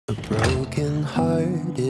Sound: door closes

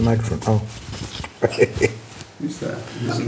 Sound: laughs

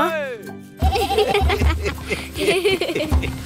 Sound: laughing

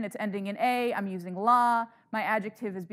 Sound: speaking in foreign language

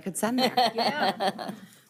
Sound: laughing

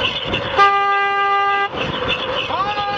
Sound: honk

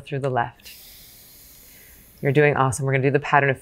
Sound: exhales gently

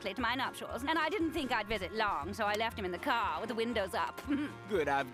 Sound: chuckles

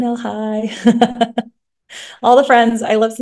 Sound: laughs

